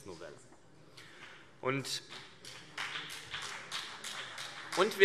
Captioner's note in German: Beifall BÜNDNIS 90/DIE GRÜNEN und vereinzelt CDU